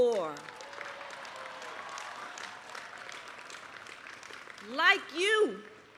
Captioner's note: applause